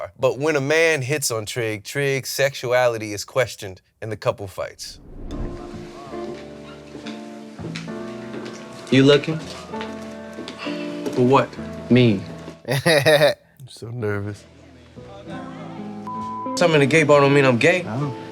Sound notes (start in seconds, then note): 5.3 chill music; 12.6 chuckles